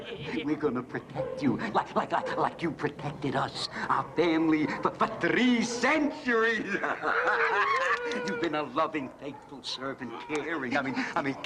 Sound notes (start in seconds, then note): 6.6 laughter